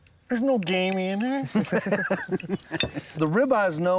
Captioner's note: laughing